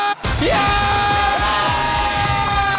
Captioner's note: screaming in joy